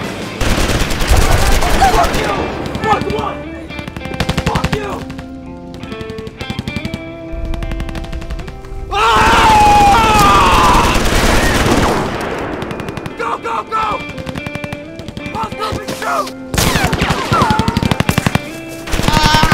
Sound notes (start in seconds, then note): 5.5 somber music; 9.1 shouting; 9.5 gun firing; 16.4 guns firing